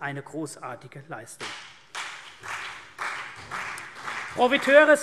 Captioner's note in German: Beifall CDU und BÜNDNIS 90/DIE GRÜNEN